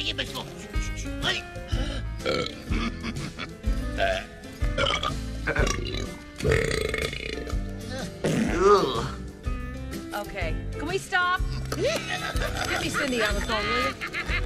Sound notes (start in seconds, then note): 0.4 speaking foreign language, belches; 2.7 snickering; 4.9 belch; 7.0 chuckles; 8.2 passes gas